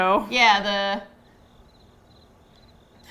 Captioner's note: cricket sounds